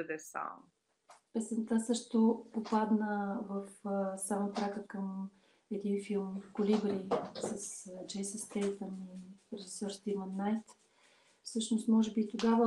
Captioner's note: foreign Language followed by English Interpreter